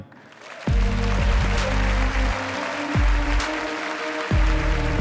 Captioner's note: audience applauding and cheering; upbeat music